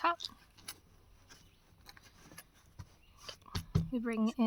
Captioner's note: pat-pat sound